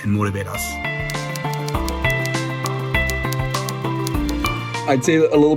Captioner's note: typing sounds